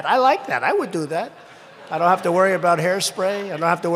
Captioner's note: laughter